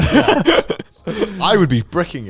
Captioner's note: chuckling